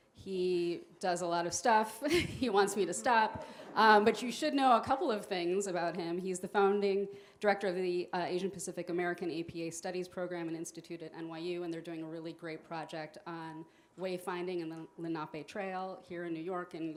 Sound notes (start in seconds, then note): 2.0 chuckles; 2.1 audience chuckles